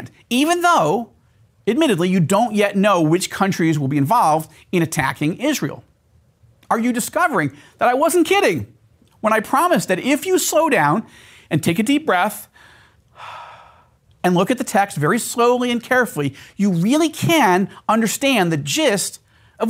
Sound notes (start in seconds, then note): 12.5 breathes